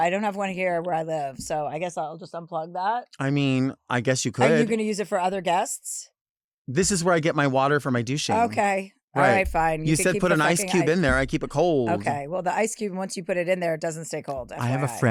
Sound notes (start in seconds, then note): none